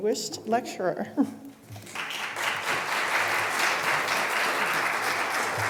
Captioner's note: applause